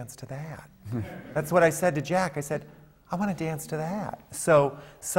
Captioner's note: laughter